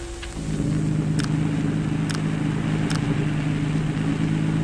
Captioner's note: engines rumbling